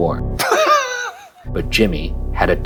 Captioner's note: laughing